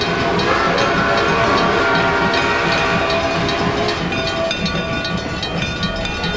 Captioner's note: NH I5 Whistle